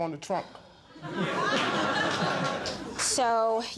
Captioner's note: audience laughing